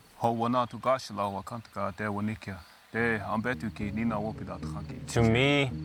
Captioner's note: speaking Native language